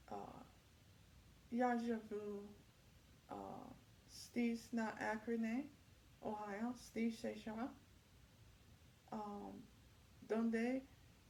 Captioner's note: speaking multiple languages